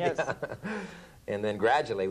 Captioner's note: laughter